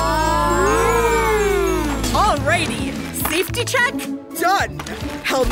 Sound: ooo-ing

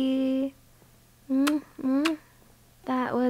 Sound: kiss noises

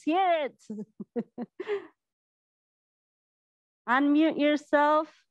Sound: laughs softly

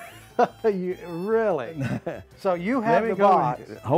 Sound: laughs

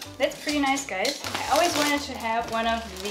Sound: plastic cackling

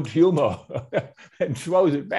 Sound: laughs

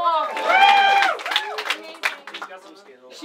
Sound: crowd cheers

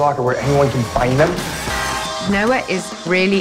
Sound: car squealing; gunfire popping

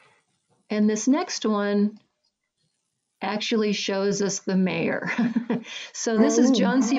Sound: laughs

